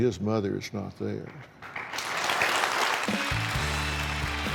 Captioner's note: applause